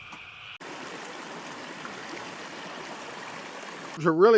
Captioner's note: water lapping